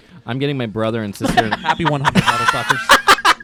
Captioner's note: laughing; guys laughing